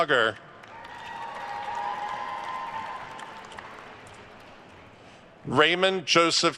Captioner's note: attendees cheering and applauding